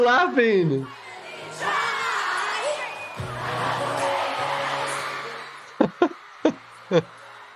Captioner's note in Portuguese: gritaria dos fãs continua